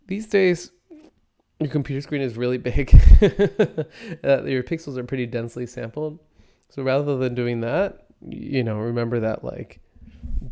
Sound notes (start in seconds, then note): 2.9 laughs